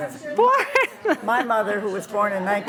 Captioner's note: laughs